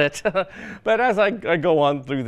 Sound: laughs

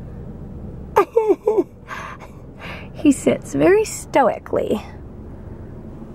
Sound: laughs

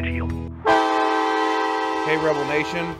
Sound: loud horn

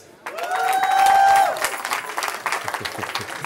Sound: cheering

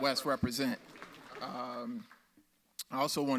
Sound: audience applauds

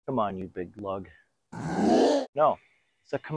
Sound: defiant roar

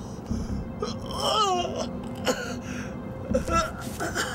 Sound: crying out

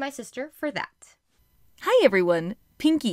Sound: Pinky speaking

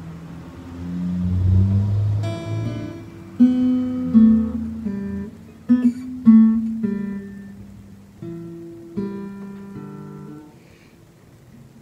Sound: car passes, fingerpicking resumes; quietly, mumbling

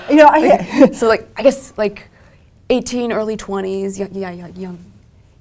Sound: laugh

